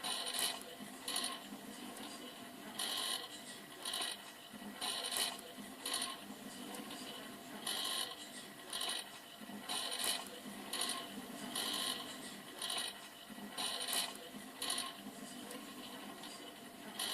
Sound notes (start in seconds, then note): 5.7 microwave turning sounds